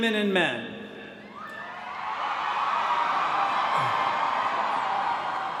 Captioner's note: cheering